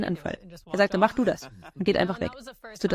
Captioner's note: laughs